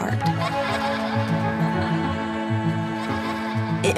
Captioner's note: laughter